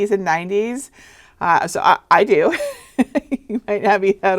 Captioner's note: laughing